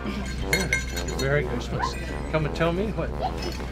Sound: bell jingles

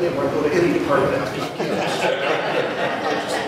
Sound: audience laughs

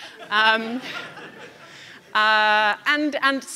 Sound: audience laughing

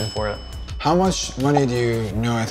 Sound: bell dinging

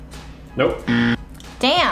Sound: buzzer sounding

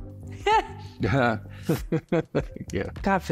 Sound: laughing

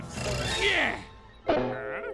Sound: groaning

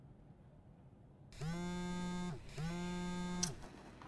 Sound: phone vibrates

